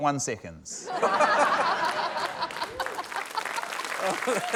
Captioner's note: laughter, applause